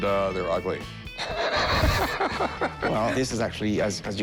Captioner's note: laughs